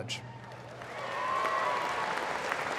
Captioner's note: applause